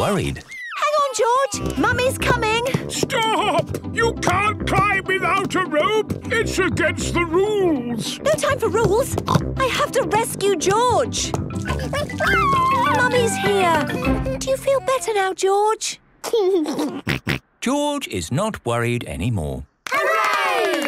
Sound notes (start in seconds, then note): 8.7 snorts; 11.6 George crying; 15.7 giggles